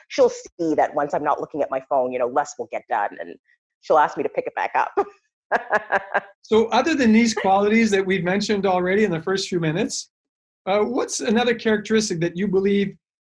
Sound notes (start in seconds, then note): 6.6 laughs